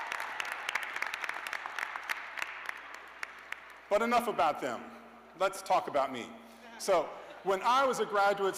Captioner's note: cheers and applause